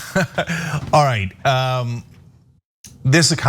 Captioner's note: laugh